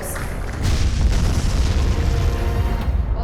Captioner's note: blasting sound